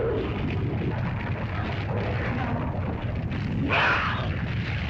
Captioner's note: dinosaur cries out; fire crackles; lizard growls & grumbles; lizard yelps